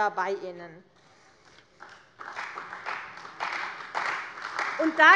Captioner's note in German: Beifall bei der CDU